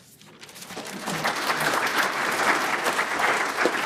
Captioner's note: applause